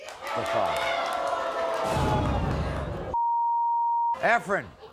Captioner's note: crowd cries